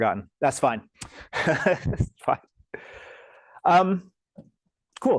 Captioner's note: laughs